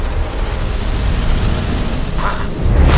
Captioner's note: wind blows